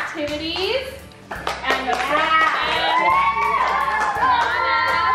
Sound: kids cheering

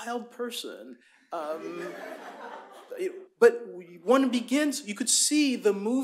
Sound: laughter

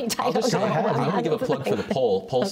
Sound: laughter

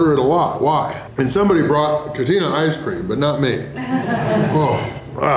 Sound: haha

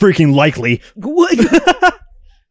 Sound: cackles

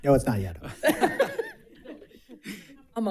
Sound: all laughing

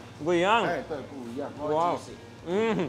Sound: speaks in foreign language

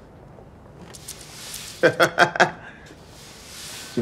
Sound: laughs at flowers

